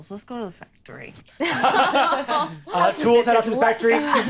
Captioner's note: all laughing